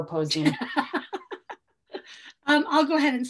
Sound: laughing

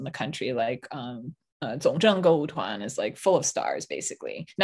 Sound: speaking in Mandarin

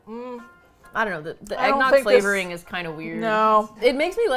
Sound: with disgust

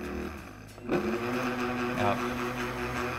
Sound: cheerful upbeat acoustic guitar; blender whirring

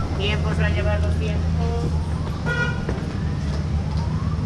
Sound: background mumbling

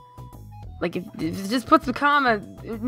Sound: stammers

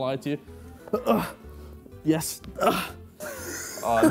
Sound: grunting

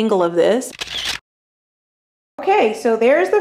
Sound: camera shutter

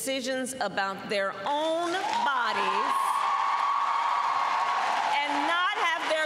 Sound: applause

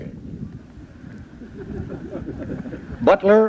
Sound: modest chuckling

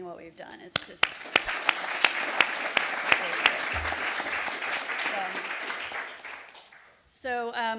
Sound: clapping loudly; audience clapping loudly

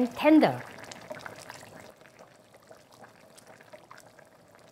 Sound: water boiling

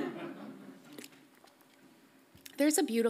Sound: audience laughs softly

